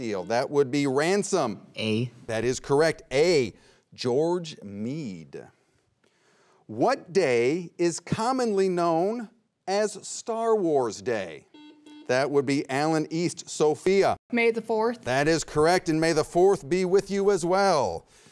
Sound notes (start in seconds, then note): 11.4 buzzer beeps twice